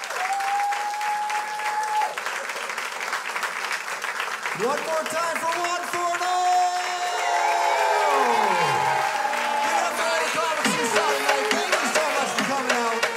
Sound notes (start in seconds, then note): 2.9 crowd applauds; 7.0 crowd cheers